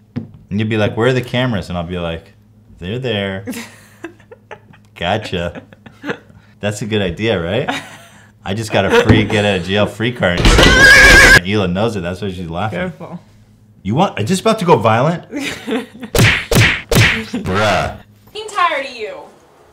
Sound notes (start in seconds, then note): 10.4 violent Humping And Horse Neigh; 15.3 giggling; 16.1 3 cartoon punch sounds